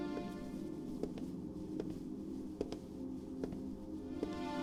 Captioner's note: slow Footsteps